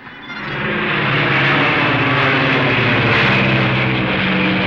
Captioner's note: plane whooshing